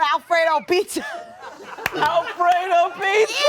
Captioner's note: all laugh